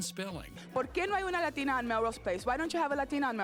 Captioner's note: speaking Spanish